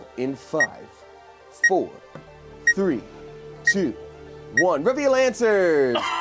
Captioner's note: timer clicks